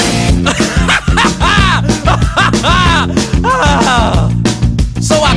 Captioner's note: hysterical laughter